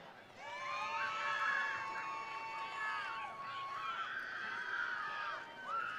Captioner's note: attendees cheering; attendees applauding